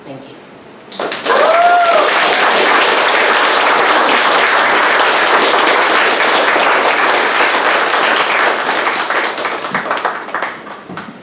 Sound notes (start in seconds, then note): 1.3 audience applauds